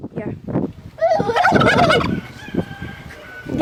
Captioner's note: imitating the turkey